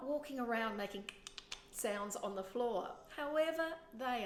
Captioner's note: dental clicks